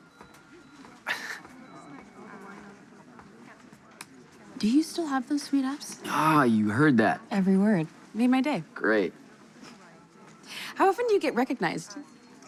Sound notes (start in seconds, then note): 0.7 scoffs